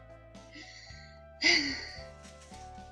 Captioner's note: sigh